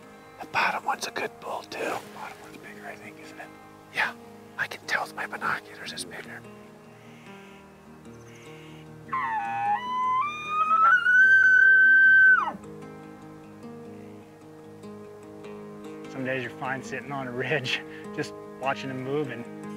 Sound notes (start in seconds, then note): 8.2 hunter calls; 13.0 soft music